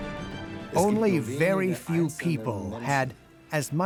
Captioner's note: in German